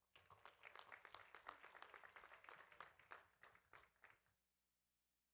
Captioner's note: audience applauding